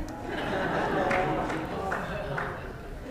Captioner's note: more chuckles